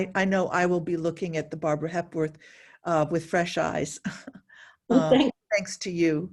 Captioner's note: chuckles